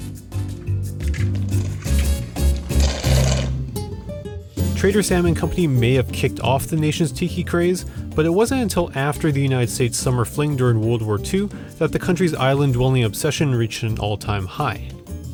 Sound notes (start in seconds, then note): 0.3 bossa nova beat; 3.2 straw slurping